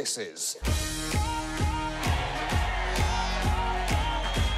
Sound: audience cheering

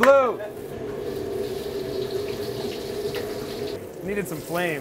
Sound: chanting and clapping; oil popping

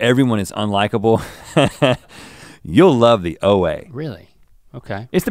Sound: chuckles

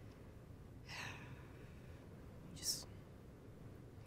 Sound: sighing

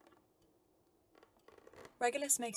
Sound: floor creaking

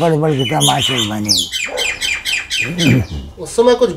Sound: bird chirping

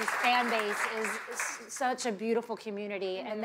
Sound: applause

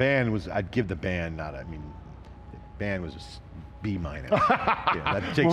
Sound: laughs

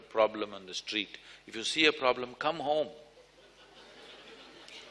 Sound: laughter

